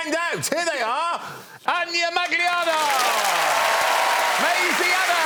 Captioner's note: applause